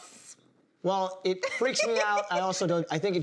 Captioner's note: laughs